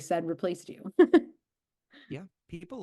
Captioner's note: chuckles